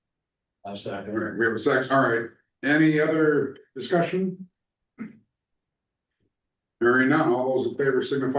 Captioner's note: clears throat